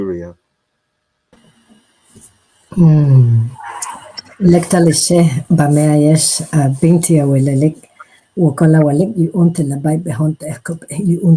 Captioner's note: speaking in Mayan Tzeltal language